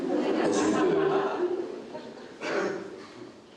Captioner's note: audience laughs